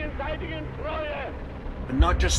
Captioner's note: soundbite of archived recording; non-English language spoken